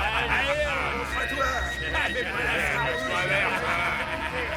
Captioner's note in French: le téléphone sonne